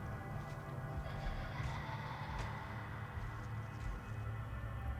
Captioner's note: children giggling